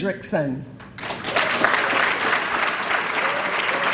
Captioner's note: applause